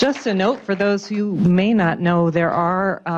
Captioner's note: applause